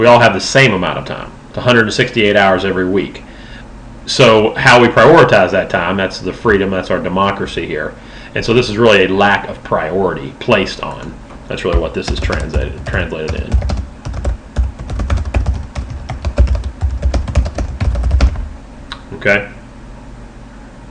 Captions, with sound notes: We all have the same amount of time, 168 hours every week. So, how we prioritize that time, that's the freedom. That's our democracy here. And so, this is really a lack of priority placed on -- that's really what this is translated in. [Keyboard tapping] Okay.